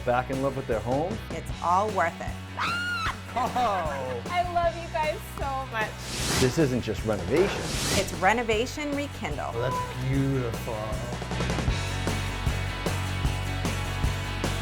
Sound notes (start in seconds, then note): 2.5 screams; 11.9 upbeat music